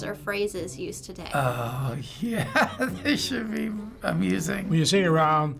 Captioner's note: laughing